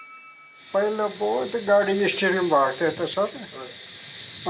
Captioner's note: dzongkha spoken audio